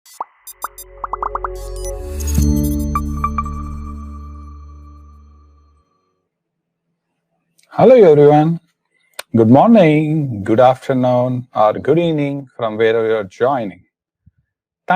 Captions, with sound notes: (logo popping) (logo swooshing) (three-note tech music) - Hello, everyone. Good morning, good afternoon, good evening from wherever you are joining.